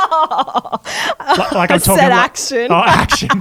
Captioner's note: giggles